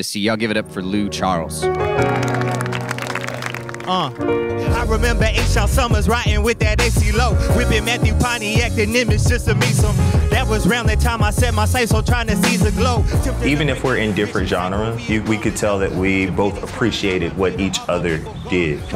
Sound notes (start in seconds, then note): 1.9 audience clapping; 4.8 hip-hop music